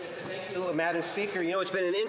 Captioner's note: speaking in French